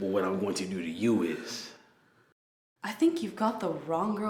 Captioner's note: none